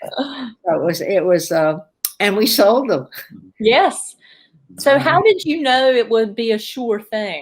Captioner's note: laughter